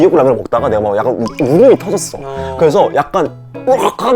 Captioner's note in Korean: 복잡한 마음에 터져버린 울음